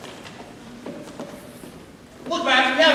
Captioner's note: none